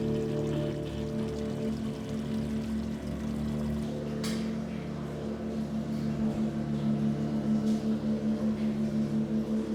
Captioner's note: water running; soft music; water running